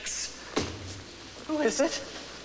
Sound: knock knock

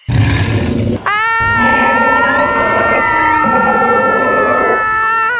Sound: roars and screams

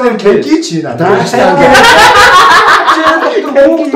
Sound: laughter

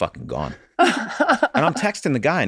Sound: Rob and Megan chuckle

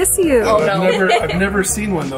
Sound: laughs

